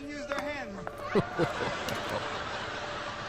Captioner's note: laughing